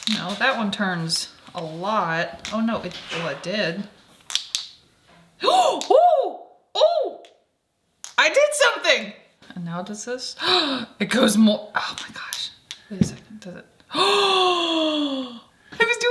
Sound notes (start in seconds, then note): 4.2 ball clinking; 5.4 attendee exclaiming; 10.4 gasps; 13.9 attendee gasping